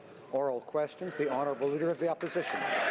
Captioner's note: some Applause